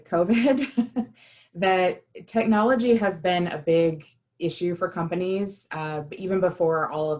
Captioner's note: laughter